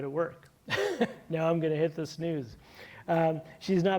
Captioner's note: chuckles